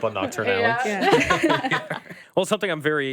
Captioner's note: group laughing